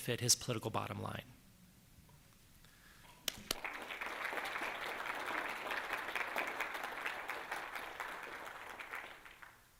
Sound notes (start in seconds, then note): 3.3 applause